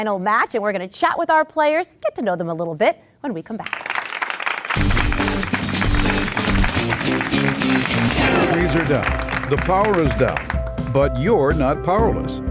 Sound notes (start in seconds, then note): 3.6 applause; 4.8 upbeat guitar sting